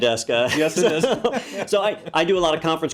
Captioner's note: laugh